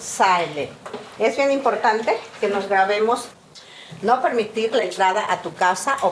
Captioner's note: speaking in Spanish